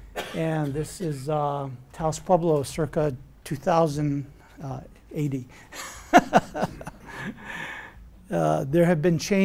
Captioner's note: laughs